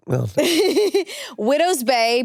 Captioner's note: chuckles